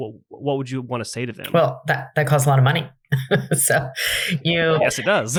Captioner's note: laughs